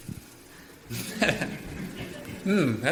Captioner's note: laughs